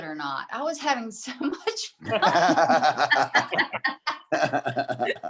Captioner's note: group laughs